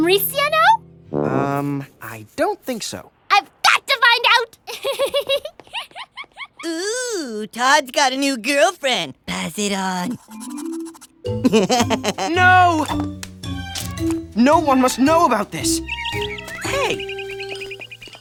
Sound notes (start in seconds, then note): 4.7 giggles; 11.3 laughs; 14.5 bird chirps